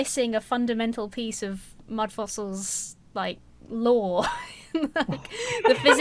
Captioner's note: laughs